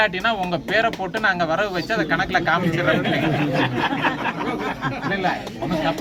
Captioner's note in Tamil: சிரிப்பு